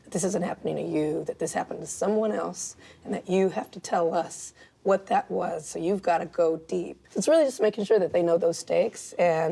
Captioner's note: none